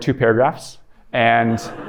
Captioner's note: laughter